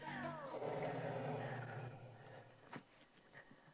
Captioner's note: roaring